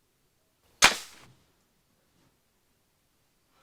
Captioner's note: gun fires